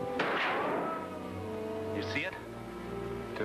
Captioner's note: gunshot bangs